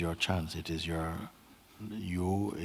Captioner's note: none